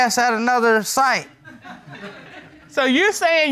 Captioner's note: audience tittering